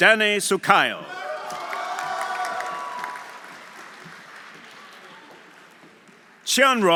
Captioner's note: audience cheering; audience applauding